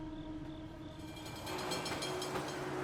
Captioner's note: tram bell ringing